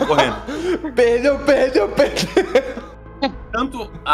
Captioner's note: laughter